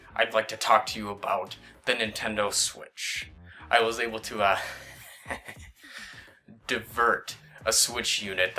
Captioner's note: snickers